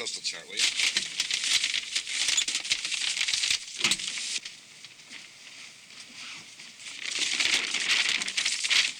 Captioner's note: paper crumpling